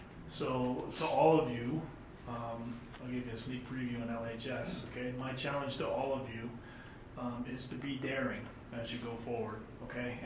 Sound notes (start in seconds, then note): none